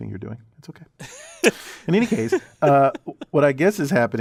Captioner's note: laugh